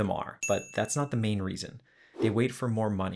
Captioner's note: bell Dings